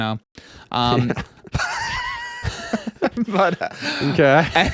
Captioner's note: laughs